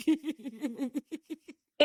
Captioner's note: both laughing